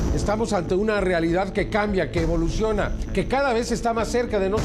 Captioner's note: in vreemde taal